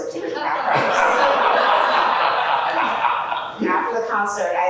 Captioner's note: laughter